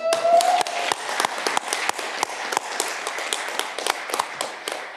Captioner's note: audience clapping